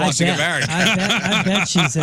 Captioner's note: laughing